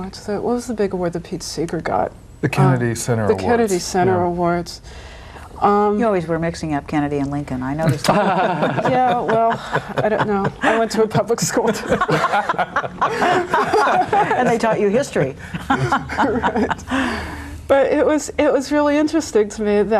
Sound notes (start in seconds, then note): 8.4 all laughing